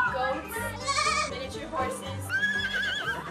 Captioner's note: baaing; whinnying